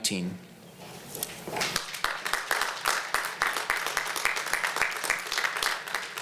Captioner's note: applause